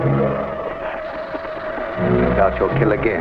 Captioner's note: dramatic music; serpent hisses and rattles